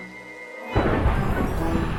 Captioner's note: thunder